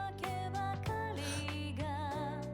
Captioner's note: gasp